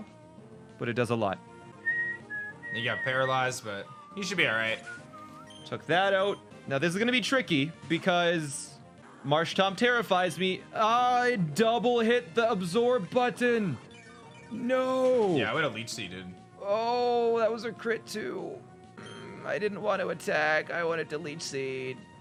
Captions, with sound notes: but it does a lot. (whistles) - He got paralyzed, but he should be all right. - Took that out. Now, this is gonna be tricky because Marshtomp terrifies me. I double hit the Absorb button. No! - Yeah, I would have Leech Seeded. - Oh, that was a crit too! I didn't want to attack. I wanted to Leech Seed.